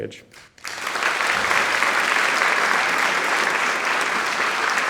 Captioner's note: audience applauding